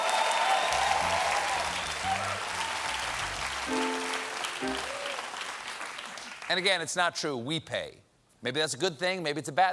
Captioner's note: cheers and applause